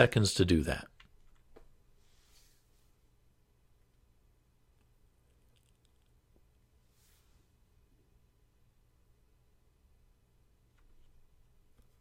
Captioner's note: 10 second pause